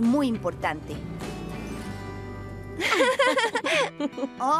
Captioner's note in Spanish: risas